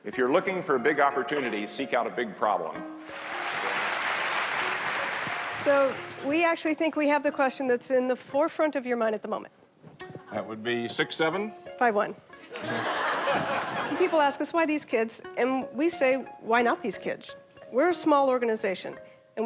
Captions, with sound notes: If you're looking for big opportunities, seek out a big problem. (class clapping) - So we actually think we have the question that's in the forefront of your mind at the moment. - That would be 6'7. - 5'1. (audience laughing) And people ask us, why these kids? And we say why not these kids? We're a small organization